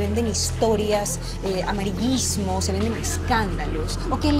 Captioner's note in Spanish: Ríe